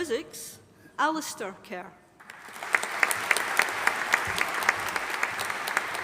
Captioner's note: audience applauding